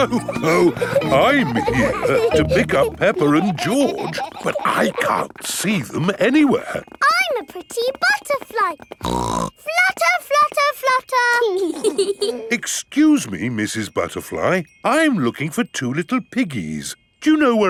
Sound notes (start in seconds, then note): 0.0 laughs; 8.9 snorts; 11.6 both giggling